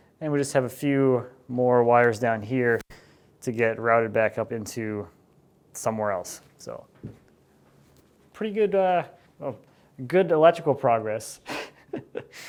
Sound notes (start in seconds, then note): 11.6 laughs